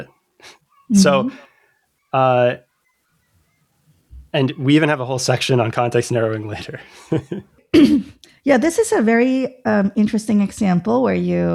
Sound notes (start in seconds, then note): 0.8 uh; 6.8 laughter